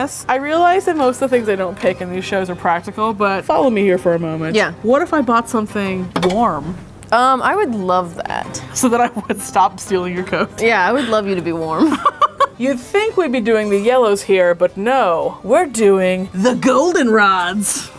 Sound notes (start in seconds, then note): 11.8 laughing